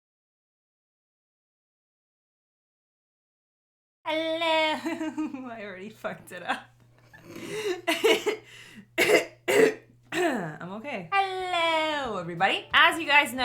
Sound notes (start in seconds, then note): 4.1 laughing; 8.9 coughing